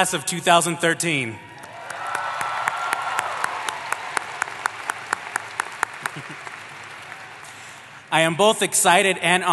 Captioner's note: applause